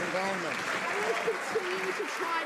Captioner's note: some Applause